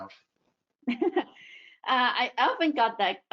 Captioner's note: laughs